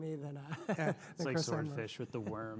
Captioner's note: laughs